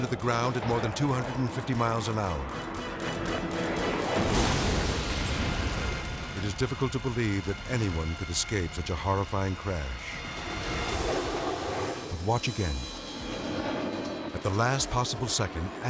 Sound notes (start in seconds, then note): 3.6 jet smashing; 9.0 jet engine whirring